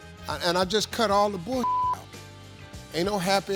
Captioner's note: beep